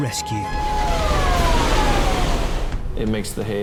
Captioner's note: water roaring